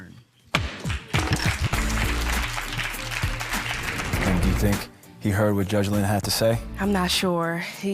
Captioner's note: applause